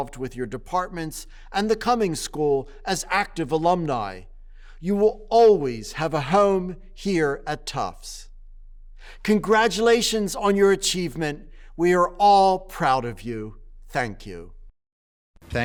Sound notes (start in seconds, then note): none